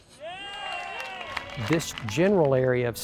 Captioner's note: cheers